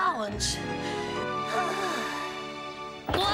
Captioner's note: breathless